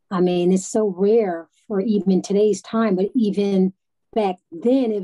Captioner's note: none